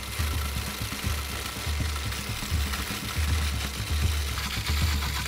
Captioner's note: food processor blending